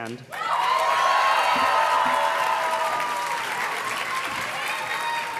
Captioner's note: audience cheers and claps